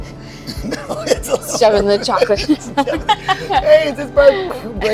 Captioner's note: laughs; both laughing